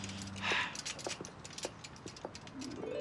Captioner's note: sighs